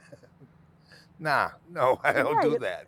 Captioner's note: laughing; laughing